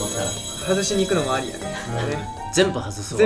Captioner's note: laughs